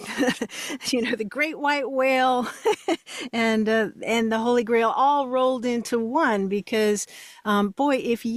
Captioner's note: laughs